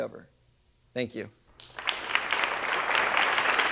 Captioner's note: applause